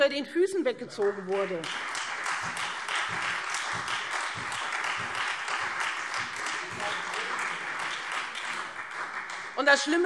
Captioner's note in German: Beifall Freie Demokraten und vereinzelt SPD